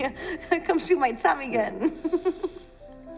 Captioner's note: laughs